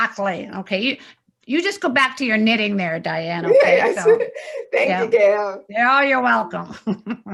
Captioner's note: laughs